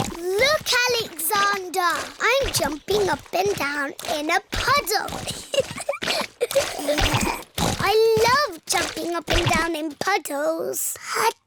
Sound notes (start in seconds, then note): 0.2 snorts; 5.2 giggling